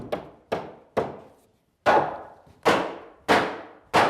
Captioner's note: hammering sounds